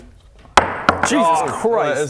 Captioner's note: table-denting thud